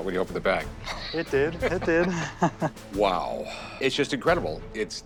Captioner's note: chuckles